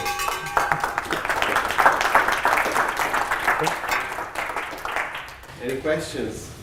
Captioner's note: applause